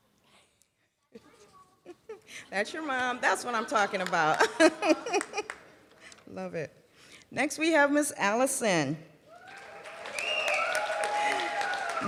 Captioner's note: laughs